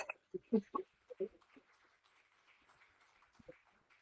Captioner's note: applause